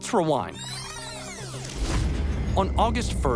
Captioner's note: tape rewinding